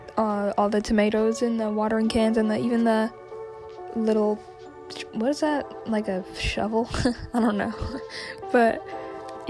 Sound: laughs

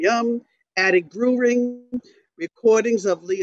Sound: microphone ringing

